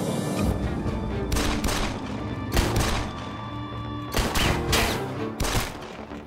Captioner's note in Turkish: Çatışma sesleri